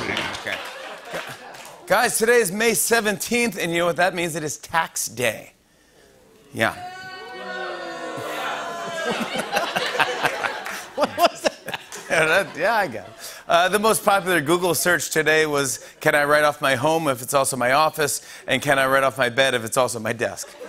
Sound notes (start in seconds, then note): 0.6 laughter; 6.3 audience groans lightly; 6.7 crowd boos; 8.6 laughter